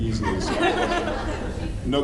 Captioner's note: laughs